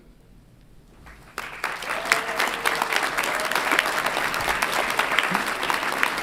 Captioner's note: audience applauds and cheers